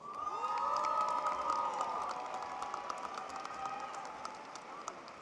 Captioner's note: audience applauding